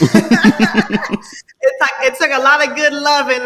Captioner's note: laughing